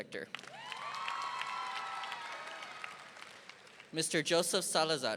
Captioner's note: audience applauding